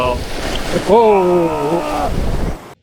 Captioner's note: exclaiming